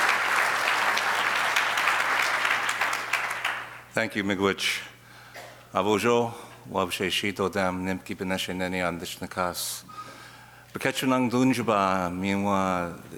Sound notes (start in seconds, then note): 5.2 speaking in foreign language